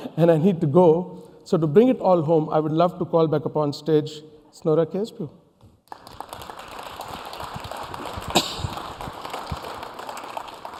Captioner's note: applause